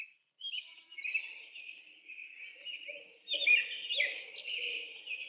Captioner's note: Birds Chirping